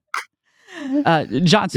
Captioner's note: laughing